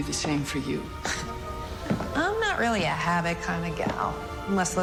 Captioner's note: Wynonna scoffs